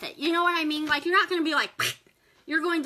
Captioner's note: mimics tearing